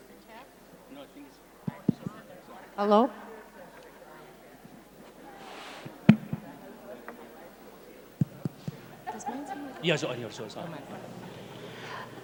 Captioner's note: muttering